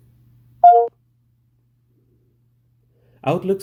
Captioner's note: computer beeps